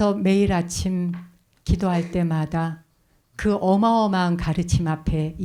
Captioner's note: speaking in Korean